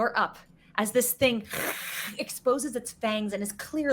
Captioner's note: hissing